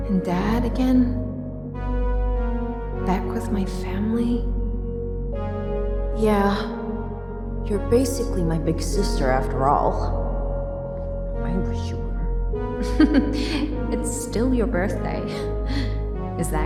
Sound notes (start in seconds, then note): 11.5 whispers; 12.8 chuckles